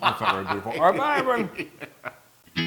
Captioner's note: laugh